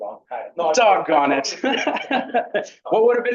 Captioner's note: laughs